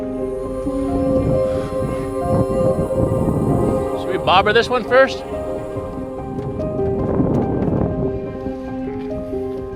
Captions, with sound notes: (wind whirring) - Should we bobber this one first?